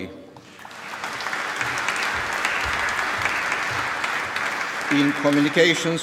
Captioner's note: applause